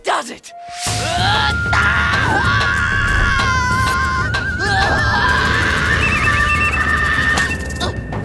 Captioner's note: screaming